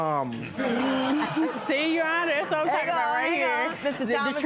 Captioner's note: laughter